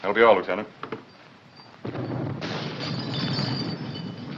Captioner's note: explosions in distance, chandelier jingles